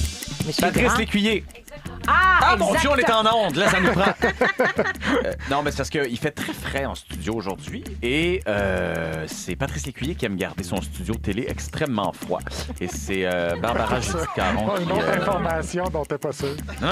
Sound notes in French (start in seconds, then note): 3.5 rires